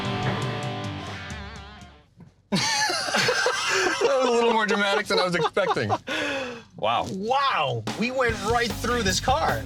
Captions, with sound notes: [LAUGHTER] A little more dramatic than I was expecting. Wow. Wow! We went right through this car.